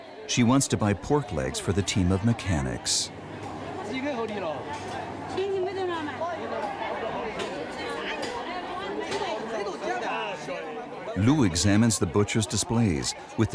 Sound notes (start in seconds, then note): 4.0 people chanting; 4.0 speaking in foreign language